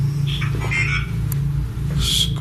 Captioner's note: device vocalising